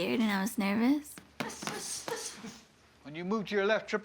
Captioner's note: grunting